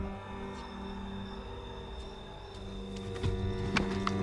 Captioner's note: boot whirring